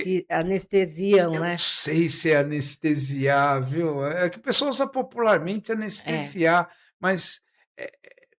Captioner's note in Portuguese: limpando a garganta